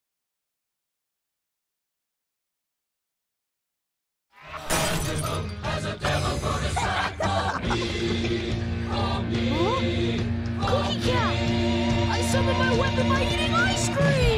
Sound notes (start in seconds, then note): 4.6 crashing noise; 6.6 laughter